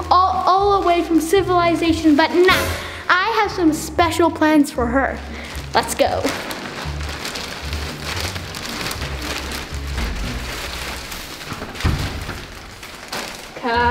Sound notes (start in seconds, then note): 6.4 bags crinkling; 11.2 handle rattling